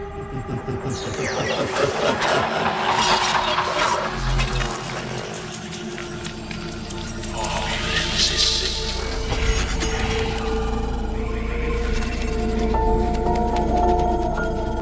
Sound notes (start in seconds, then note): 7.6 whispering; 12.7 piano plays softly